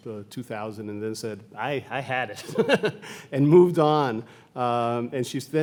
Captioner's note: laughs